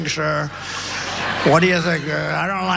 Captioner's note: laugh